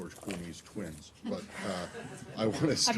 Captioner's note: laughter